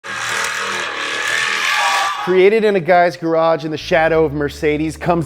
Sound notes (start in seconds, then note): 0.0 tires burning